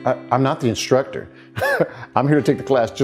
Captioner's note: laughs